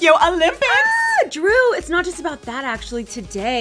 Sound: screams

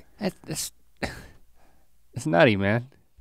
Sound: Link scoffs

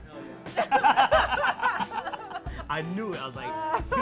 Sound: laughs

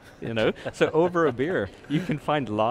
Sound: host laughs

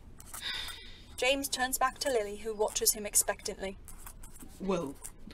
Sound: James exhales

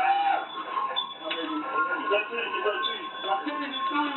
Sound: sirens wail

